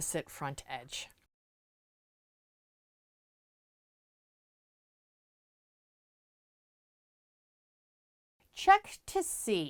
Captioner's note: no Sound Present